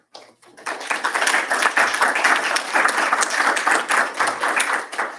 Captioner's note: applause